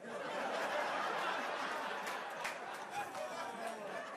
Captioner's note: crowd laughing